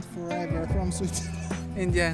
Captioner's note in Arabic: يضحك